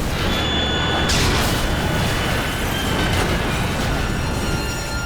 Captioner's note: plane crashing